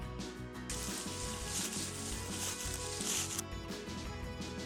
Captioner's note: leaves crunching